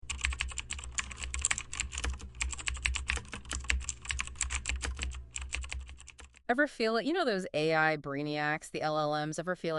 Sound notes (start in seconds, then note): 0.1 keyboard clacking